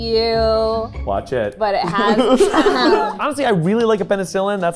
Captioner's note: laughing